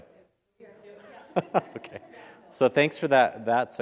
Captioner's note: laugh